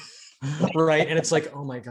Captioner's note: both laughing